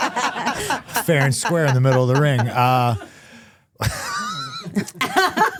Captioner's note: laughing